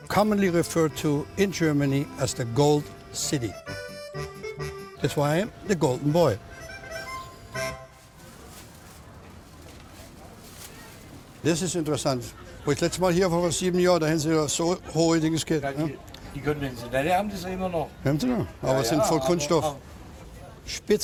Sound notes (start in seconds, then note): 7.0 laughs; 8.2 market sounds; 11.6 speaking german